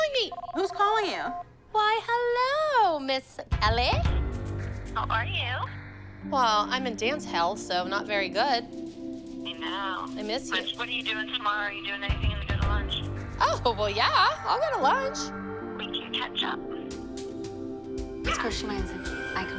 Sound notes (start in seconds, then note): 4.9 on phone; 8.8 on phone; 15.7 on phone